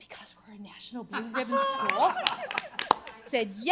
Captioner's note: people laughing